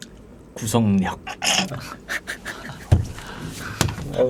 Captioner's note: chuckling